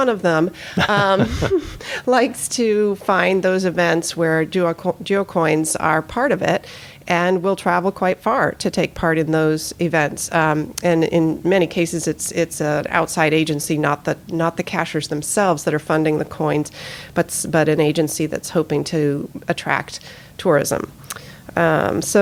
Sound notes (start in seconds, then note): 0.7 laughter